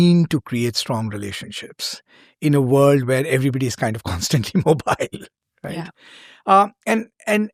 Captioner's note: chuckles